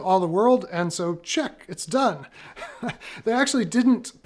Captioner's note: laughs